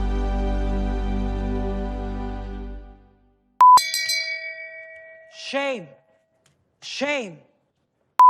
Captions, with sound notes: (bell rings) - [Pre-Recorded Voice] Shame, shame.